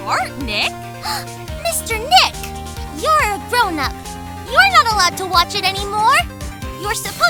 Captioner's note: gasp!